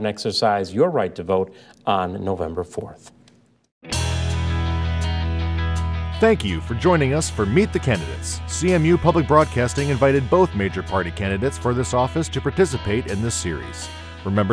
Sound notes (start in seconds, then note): 6.2 voiceover